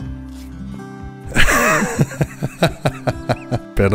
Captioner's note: laughter